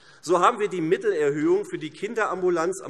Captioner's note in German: none